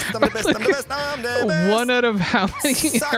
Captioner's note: laughs